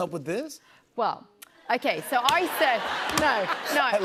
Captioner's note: laughter